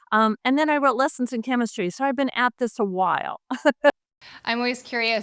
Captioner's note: laughs